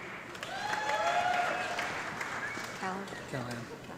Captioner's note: audience clapping